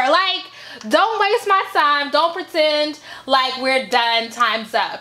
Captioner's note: none